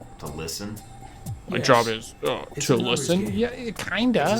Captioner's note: mocking Tone